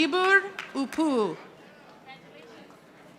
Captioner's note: audience applauding